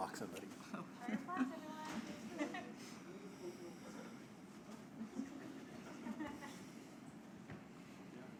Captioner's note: laughs